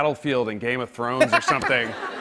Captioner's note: laughter